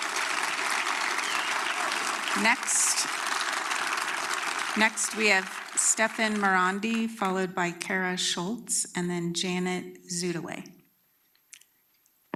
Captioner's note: applause